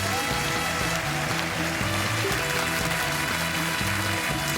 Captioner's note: applause